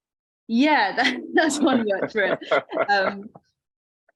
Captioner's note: both laughing